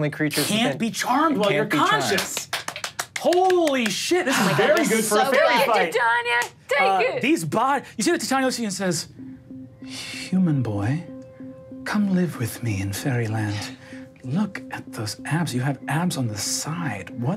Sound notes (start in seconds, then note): 3.5 claps